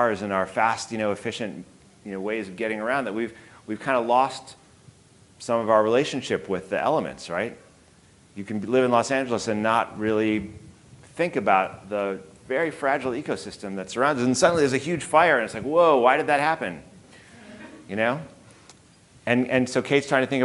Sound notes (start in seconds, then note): 17.2 audience chuckling